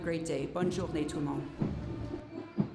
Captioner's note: repeated in French